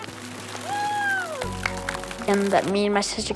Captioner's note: claps